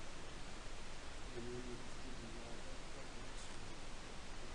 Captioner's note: man speaking